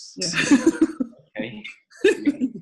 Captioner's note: laughs